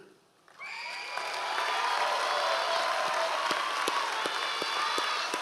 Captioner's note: members of the audience cheering